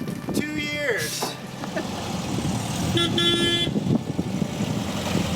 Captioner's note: chuckling; Beetle horn honking; Beetle engine rumbling